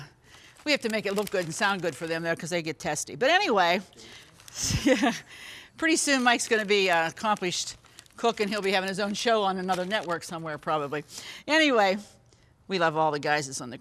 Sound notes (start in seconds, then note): 4.6 laughs